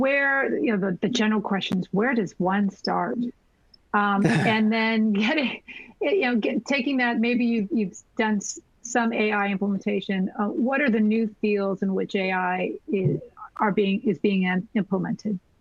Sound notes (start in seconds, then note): 4.2 laughter